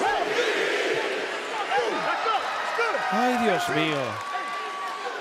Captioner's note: applause